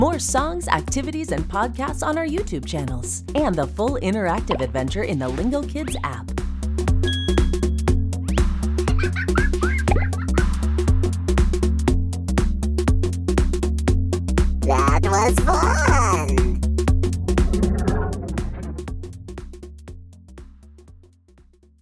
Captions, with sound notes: More songs, activities, and podcasts on our YouTube channels, and the full interactive adventure in the Lingokids app. [laughter] That was fun!